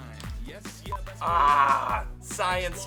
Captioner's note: growls